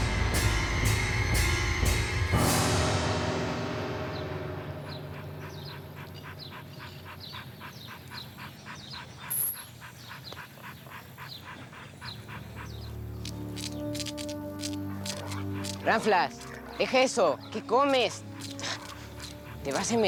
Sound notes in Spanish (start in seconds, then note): 10.7 jadeos del perro